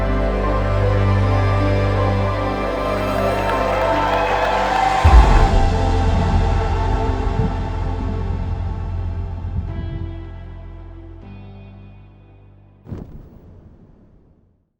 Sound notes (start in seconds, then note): 4.2 crowd applauding